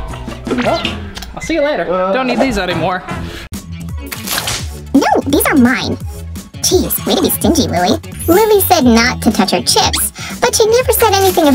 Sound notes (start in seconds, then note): 5.2 funny voice